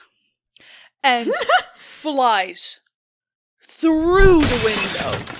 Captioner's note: laughs; the sounds of a glass window breaking